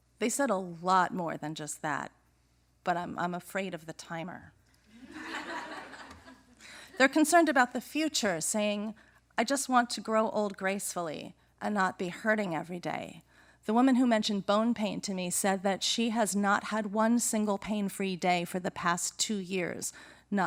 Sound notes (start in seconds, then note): 4.9 laughter